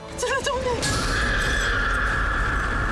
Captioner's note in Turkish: Bağırıyor